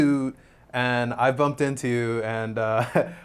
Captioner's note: chuckles